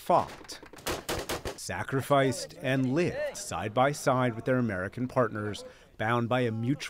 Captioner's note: gunfire